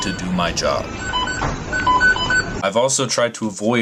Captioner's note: kitchen equipment beeping